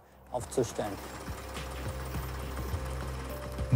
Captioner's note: tractor engine noise